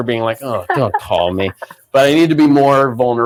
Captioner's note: laughs